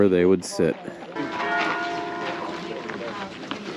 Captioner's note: harmonious Dinging